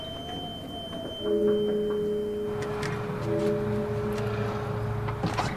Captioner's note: knocking on door